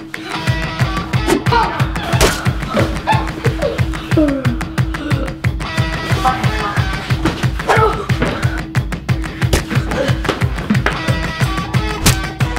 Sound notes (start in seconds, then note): 4.0 groaning; 9.5 grunting